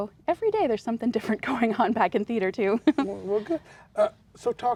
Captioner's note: laughs